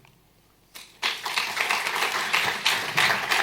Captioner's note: clapping